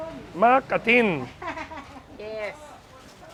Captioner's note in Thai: เสียงหัวเราะ